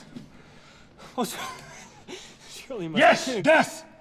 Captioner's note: laughs